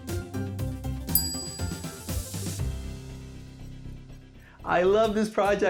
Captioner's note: bell dings